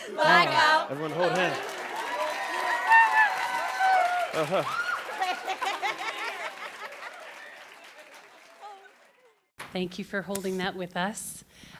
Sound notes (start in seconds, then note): 1.8 cheers and applause